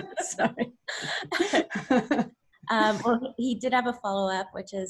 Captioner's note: laughing; laughs